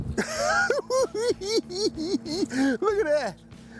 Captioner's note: cackling